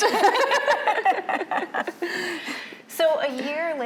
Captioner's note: both laughing